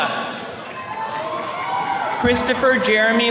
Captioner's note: attendees cheering